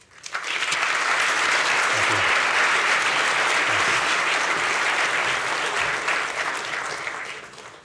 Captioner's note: applause